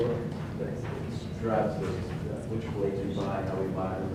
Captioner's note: speaking off mic